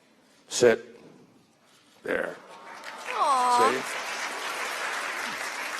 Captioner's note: applause